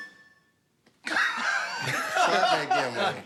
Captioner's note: laughter